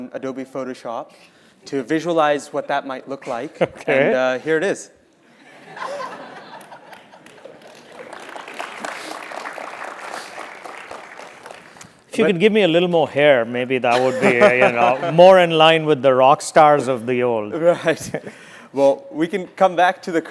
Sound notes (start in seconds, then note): 5.6 laugh; 6.6 applause; 17.6 laugh